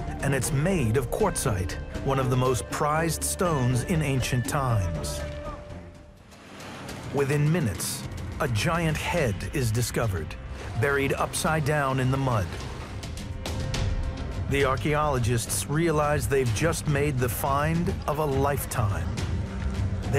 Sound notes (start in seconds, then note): 4.9 gentle suspenseful music; 4.9 indistinct chatters; 12.7 lively suspenseful music